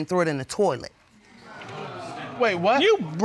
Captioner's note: audience exclaims